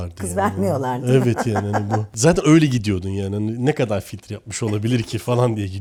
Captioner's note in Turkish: kahkaha